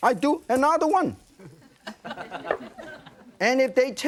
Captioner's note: some audience members chuckling